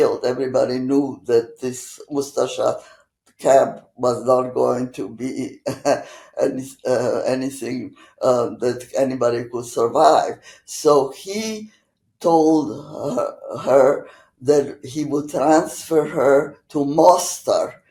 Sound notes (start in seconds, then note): 5.3 laughing